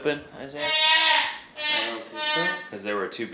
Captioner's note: vocalizes loudly